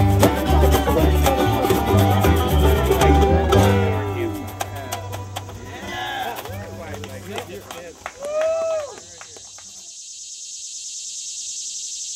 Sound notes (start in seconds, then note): 4.0 cheering; 4.5 clapping; 9.1 cicadas rattling